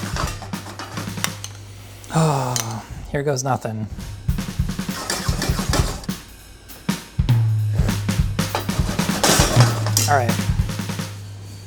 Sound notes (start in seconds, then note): 0.0 pan clatters on stove; 4.4 upbeat drumming; 5.2 pan clattering on stove